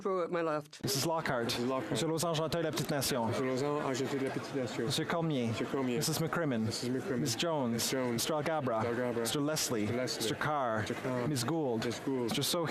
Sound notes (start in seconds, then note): 1.8 speaking French